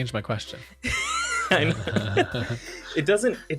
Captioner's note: laughs